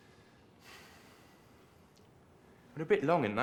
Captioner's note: sighs